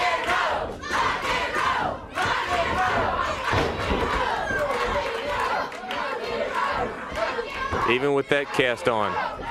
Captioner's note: crowd cheering